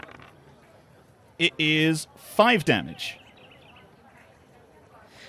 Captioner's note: dice clacks